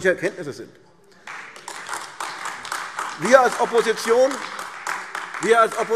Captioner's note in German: Beifall AfD